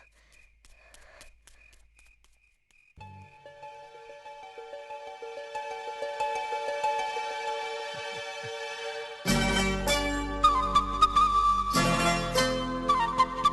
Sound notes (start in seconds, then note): none